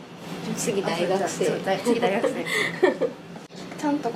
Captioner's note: laughs